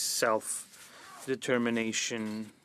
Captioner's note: speaking French